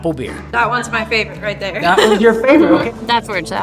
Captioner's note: laughing